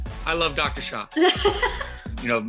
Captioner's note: laughs